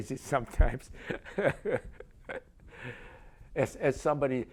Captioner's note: laughs